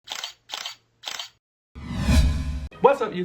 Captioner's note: camera shutter clicking